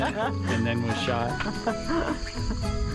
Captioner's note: laughs